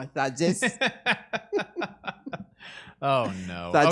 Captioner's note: both laughing